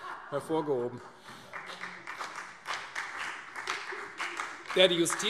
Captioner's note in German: Heiterkeit und Beifall